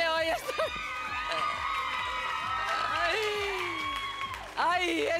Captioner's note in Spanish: Gritos y exclamaciones